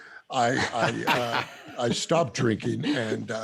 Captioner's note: laughter